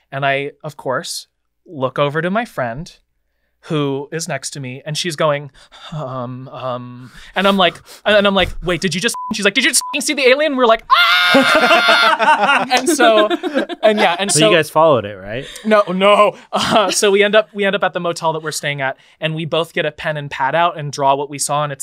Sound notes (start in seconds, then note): 9.1 beep; 10.8 screaming